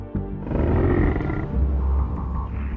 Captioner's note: growls